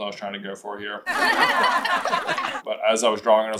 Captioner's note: laughter